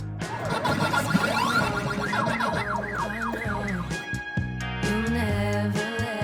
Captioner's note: "Pac-Man" arcade machine noises